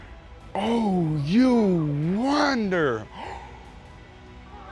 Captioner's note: gasps